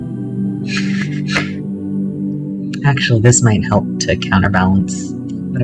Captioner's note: laughter